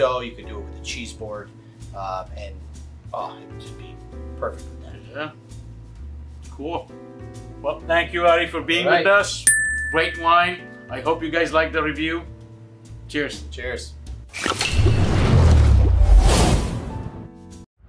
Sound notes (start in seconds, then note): 9.4 bell ringing; 14.8 liquid swooshing